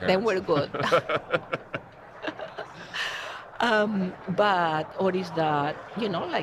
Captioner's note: laughter